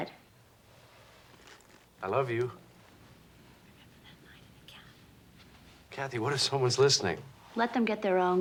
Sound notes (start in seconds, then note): 3.2 whispers